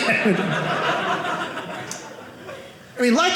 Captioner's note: audience laughing